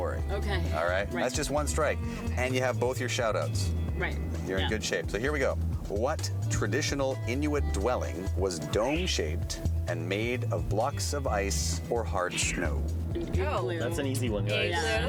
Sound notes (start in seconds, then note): none